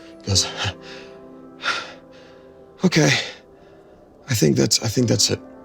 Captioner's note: breathing heavily